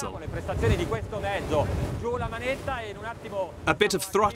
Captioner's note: foreign speaking